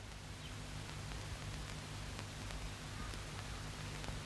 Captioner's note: birds singing